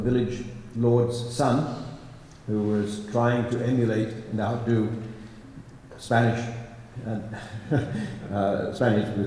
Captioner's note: laughs